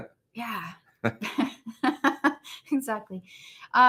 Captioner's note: laughs